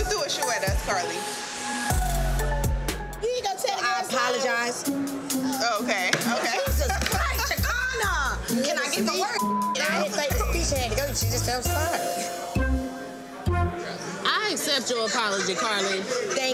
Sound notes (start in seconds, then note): 9.4 beep; 13.0 comical music